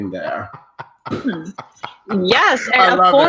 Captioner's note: laughing